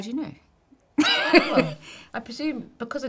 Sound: laughing

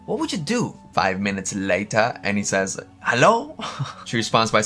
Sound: laughs

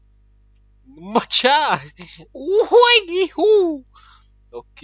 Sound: fighting noises

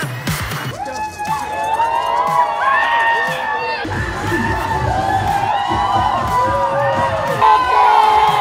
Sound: hyping up the set with excited cheers!

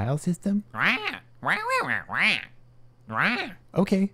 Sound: squawk

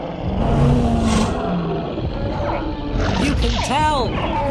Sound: dinosaurs roar and squeak

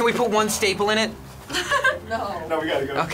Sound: chuckles

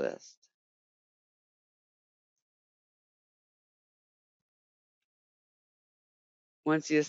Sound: 5 seconds pause

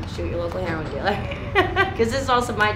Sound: laughing

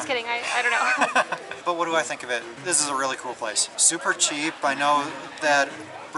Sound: laughter

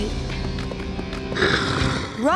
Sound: growling

